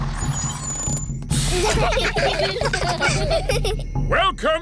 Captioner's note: children giggling